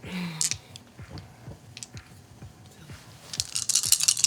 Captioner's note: sighs